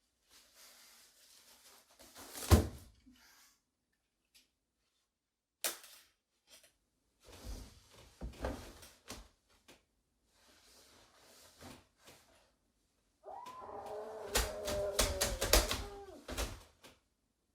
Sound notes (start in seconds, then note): 13.2 muffled screams